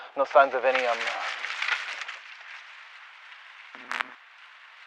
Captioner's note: rustling